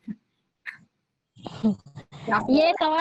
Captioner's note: laughs